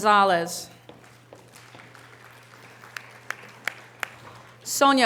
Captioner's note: audience applause